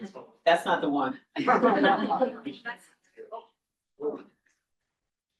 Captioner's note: crowd chuckling